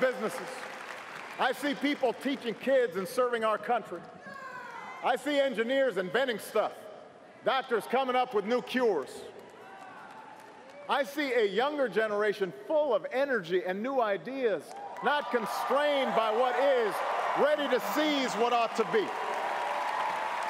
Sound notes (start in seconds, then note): 12.6 cheers & applause